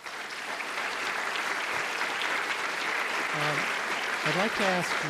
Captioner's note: applause